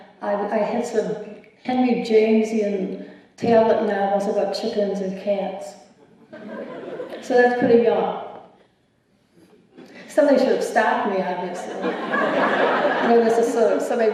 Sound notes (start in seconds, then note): 6.0 laughter; 11.6 laughter